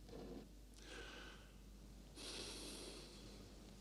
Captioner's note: sigh